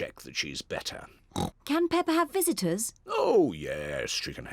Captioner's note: oinks